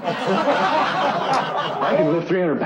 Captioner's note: crew laughs